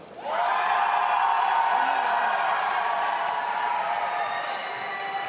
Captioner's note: audience applauding and cheering